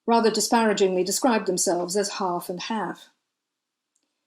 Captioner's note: English accent; American accent